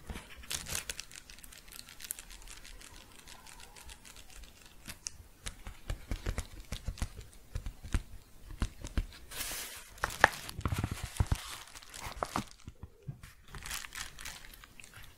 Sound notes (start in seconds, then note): 0.1 soft rhythmic crinkling; 5.3 tapping; 8.5 shuffling and crinkling